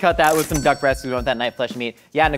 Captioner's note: cash register dings